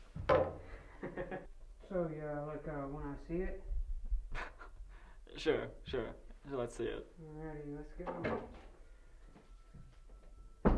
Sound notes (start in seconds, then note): 0.9 laughing; 4.3 laughs